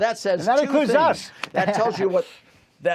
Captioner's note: laughter